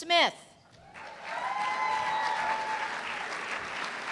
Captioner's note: cheers and applause